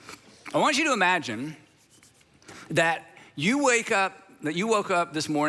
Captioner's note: hands rubbing